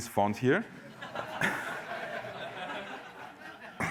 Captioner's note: laughter